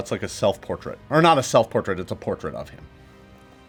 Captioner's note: none